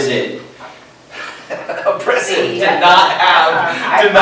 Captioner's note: laughs